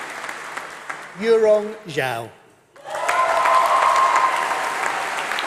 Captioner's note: applause